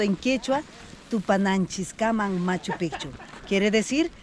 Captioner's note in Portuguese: falando em idioma estrangeiro